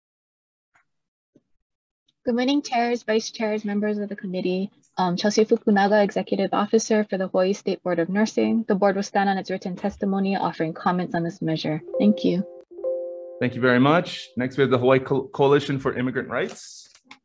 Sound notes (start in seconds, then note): 11.8 computer tone dings